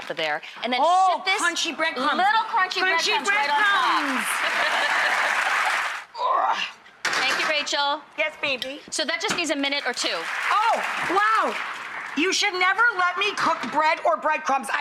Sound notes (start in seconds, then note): 5.3 audience applause and laughter; 6.3 grunts